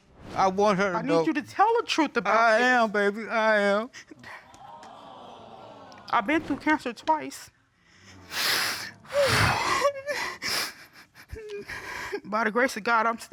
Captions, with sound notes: -I need you to tell the truth about this. -I am, baby, I am. [audience exclaiming] I've been through cancer twice. [exhales, stifling sobs] By the grace of God I'm still here, you know.